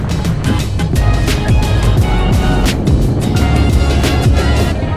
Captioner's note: wind whoosing